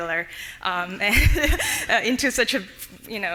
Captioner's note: laughing